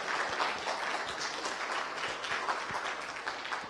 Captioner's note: applause